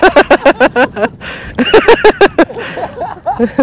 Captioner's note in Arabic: ضحك